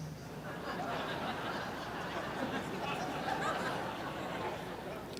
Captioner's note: audience laughs